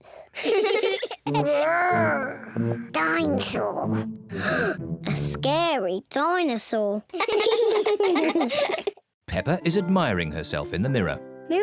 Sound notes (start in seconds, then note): 0.3 all giggle; 4.3 gasps; 7.1 all giggle